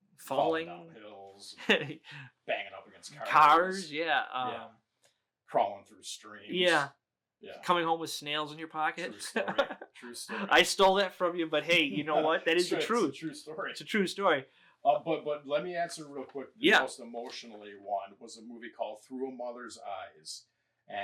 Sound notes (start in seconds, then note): 1.5 chuckles; 9.0 laughing